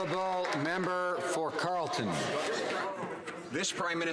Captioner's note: some Applause